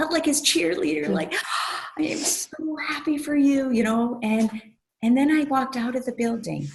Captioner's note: gasp